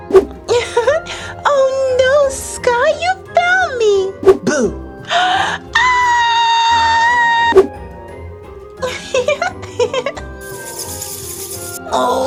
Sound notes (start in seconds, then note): 0.2 giggles; 5.7 screams; 8.8 giggles; 10.4 bats flying